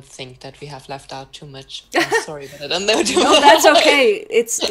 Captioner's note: laughs